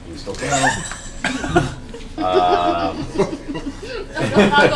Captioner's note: all laugh